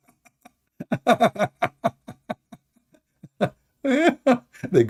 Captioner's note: Ketawa